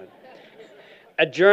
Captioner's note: laughter